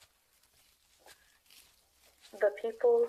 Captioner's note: footsteps over leaves